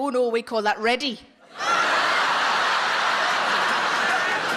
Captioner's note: audience laughing